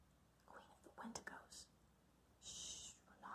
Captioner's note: whispering